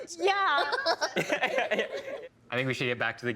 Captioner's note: laughing